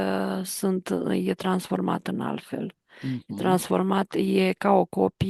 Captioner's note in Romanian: voce dreasă